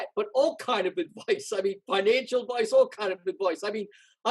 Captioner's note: laughs